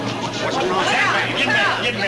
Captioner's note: people chatter